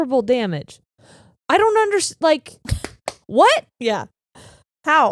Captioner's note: claps hands